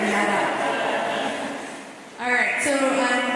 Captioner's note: laughter